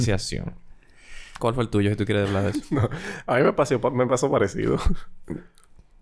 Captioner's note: laughs